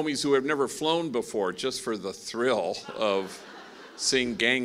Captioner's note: laughing